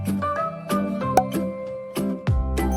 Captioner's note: popping sound